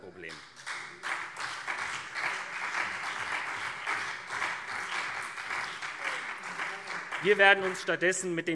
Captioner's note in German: Beifall SPD und CDU